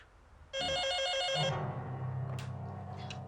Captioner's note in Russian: звонит телефон